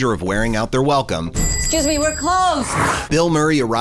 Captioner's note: zombie snarls